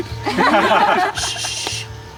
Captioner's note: group laughs